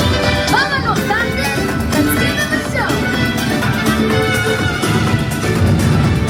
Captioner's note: speaks in Spanish